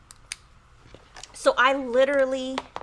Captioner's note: clicks pen